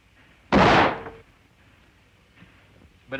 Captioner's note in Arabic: طلق ناري